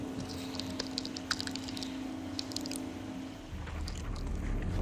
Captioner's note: rattling; suspenseful music